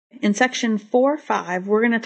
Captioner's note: voiceover